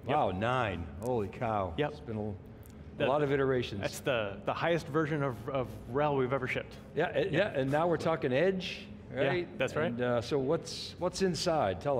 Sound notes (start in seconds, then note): none